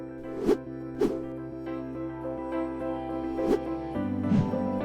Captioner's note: logos whooshing; gentle music